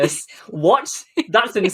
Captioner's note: laughs